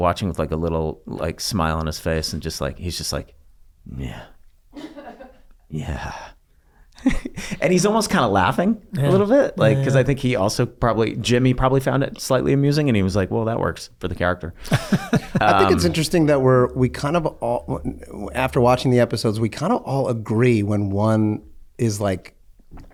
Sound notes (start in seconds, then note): 4.7 laughs; 4.7 laughing; 14.7 Charlie laughing